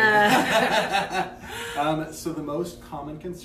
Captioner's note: laughter